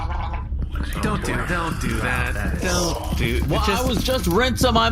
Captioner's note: gargles his drink